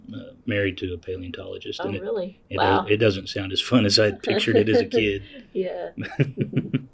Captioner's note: laughter